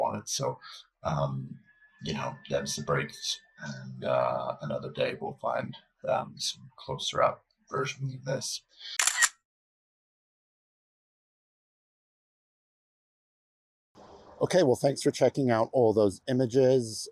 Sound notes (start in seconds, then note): 8.9 sound effect of camera